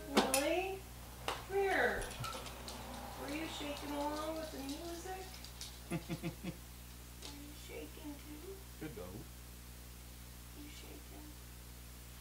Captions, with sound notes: - Lily, come here. Were you shaking along with the music? (chuckles) - Were you shaking too? - Good dog. - Yes, you are.